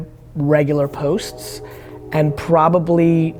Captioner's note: train horn sounding